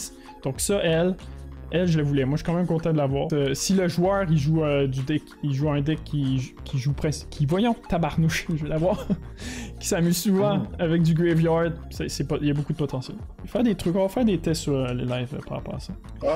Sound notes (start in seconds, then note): 5.3 fumble words